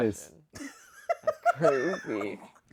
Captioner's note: laughs